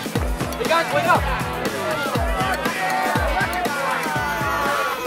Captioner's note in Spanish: estudiantes hablando y animando